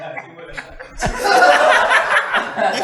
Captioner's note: laughter